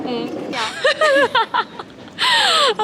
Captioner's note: laughing out load